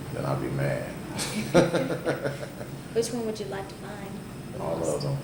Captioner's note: both laugh